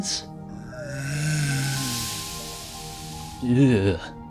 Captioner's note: uncanny greeting noise